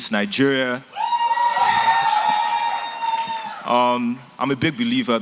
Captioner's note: cheering